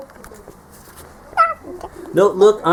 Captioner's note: neigh